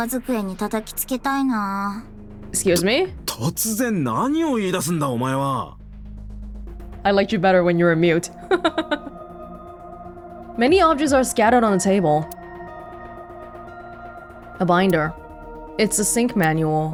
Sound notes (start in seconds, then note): 8.3 chuckles